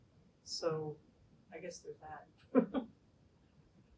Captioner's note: laughter